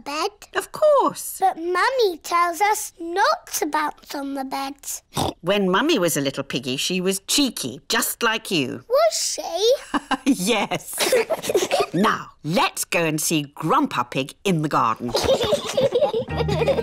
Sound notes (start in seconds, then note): 5.1 oinks; 10.8 both giggle; 10.9 laughs; 15.1 both laughing